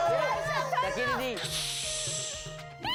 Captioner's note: hissing